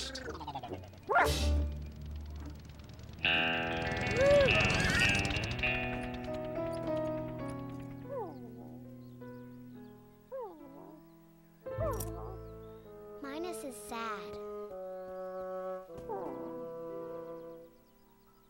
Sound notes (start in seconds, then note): 2.2 gasping noise; 9.6 whimpers